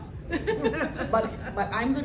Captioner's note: laughter